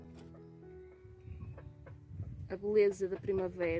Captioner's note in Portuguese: vento